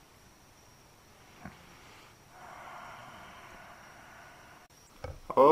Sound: breathes

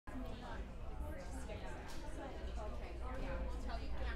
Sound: background chatter

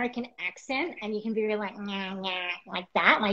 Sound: nasal sounds

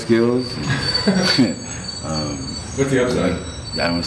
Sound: laughs; chuckles

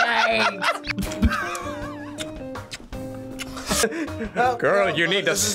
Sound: React laughs; laughs; smacks lips

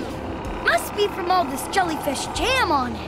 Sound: none

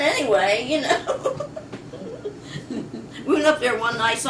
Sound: laughs

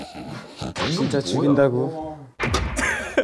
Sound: exclamation

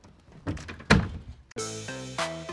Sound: door closes; funky techno music

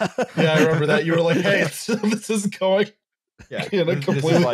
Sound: laughs; all laughing

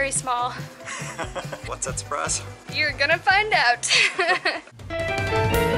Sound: laughter

